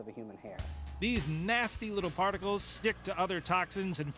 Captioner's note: voiceover